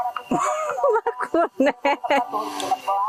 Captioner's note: chuckle